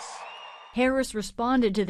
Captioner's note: cheering